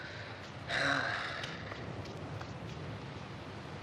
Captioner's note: sighing